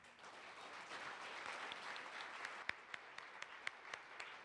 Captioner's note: participants applaud